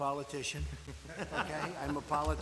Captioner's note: laughter